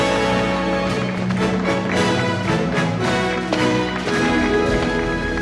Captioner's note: Aplausos